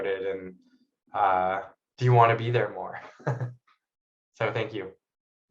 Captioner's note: laughs